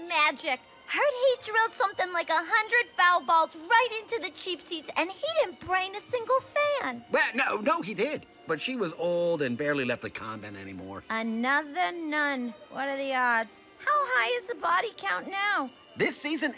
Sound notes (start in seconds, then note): 6.6 stammers